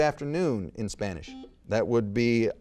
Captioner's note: buzzer beeps